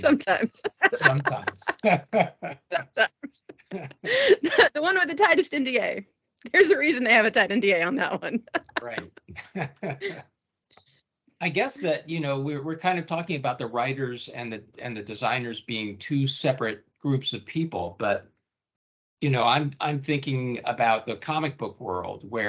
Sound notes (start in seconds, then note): 0.0 laughing; 7.9 laughing